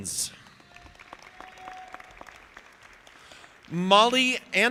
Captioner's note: audience applauding